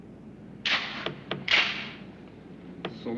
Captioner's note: gun clicks